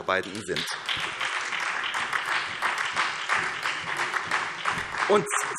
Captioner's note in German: Beifall SPD